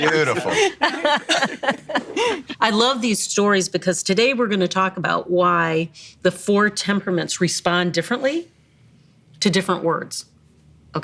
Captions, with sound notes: in cursive. - Beautiful. (laughing) - I love these stories because today we're gonna talk about why the four temperaments respond differently to different words.